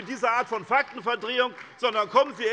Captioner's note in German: Beifall bei SPD